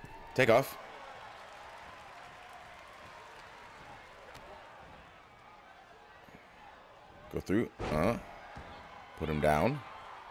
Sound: applause; applause

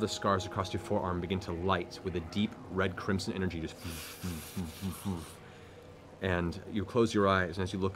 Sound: hissing sound

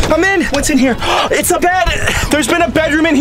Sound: gasps

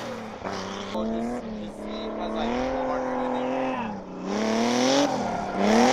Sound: crowd chattering; engine roaring

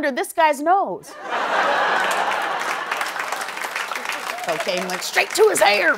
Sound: laughter

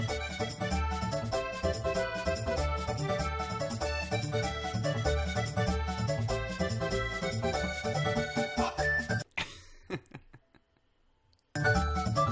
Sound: laughing

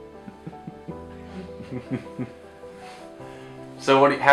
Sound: chuckles

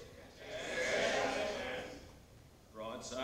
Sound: crowd

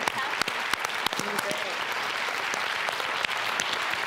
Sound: audience applauding

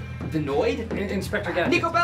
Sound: voiceover

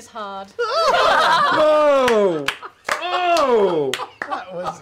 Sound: group laughter

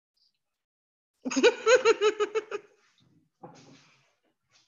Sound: chuckling

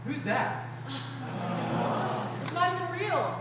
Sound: group groans

